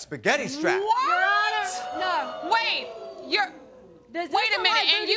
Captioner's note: audience howling